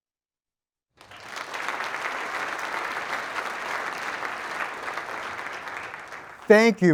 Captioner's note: applause